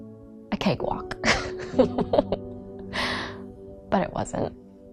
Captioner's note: laughing